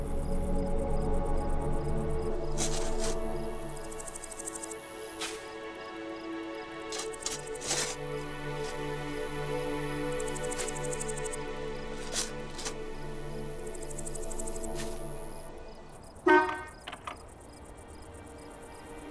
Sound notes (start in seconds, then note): 0.1 dramatic music; 3.7 digging; 8.5 dramatic music; 16.2 horn honking